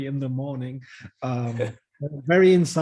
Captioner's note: laughs